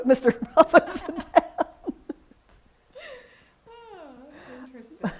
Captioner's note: laughs